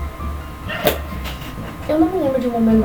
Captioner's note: abruptly closes mangá